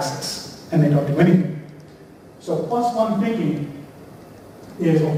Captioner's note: none